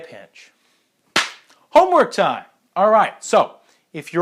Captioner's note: clapping